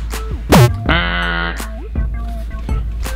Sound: buzzing

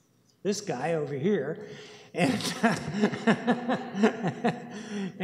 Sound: laughter

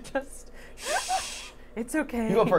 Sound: laughing

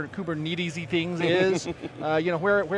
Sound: laughs

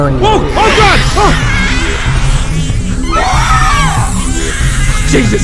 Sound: screams

